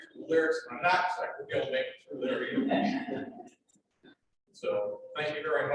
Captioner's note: laughter